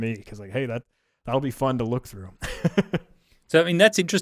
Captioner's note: laughs